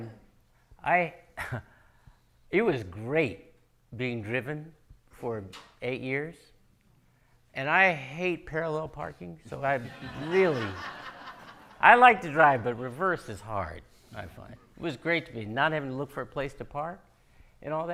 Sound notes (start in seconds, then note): 9.8 audience laughing